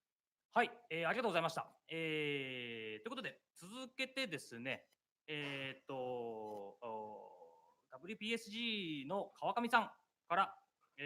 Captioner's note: speaking japanese